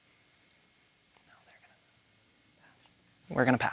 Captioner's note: whispers